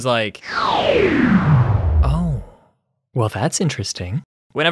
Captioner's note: power down sound